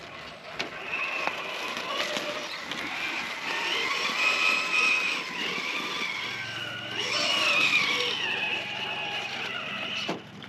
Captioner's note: vroom! Vroom! Vroom!